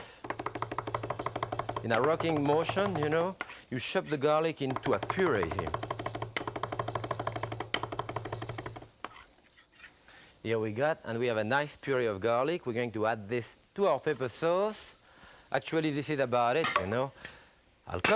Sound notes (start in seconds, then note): 0.2 knife rocking; 5.9 knife rocking; 9.0 knife scraping